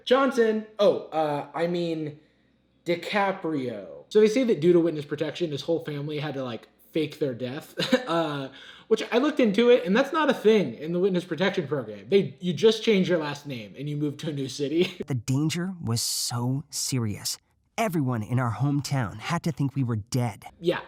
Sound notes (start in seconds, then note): 7.7 chuckles